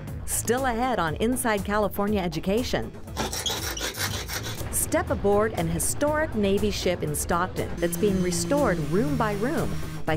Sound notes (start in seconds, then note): 3.1 sanding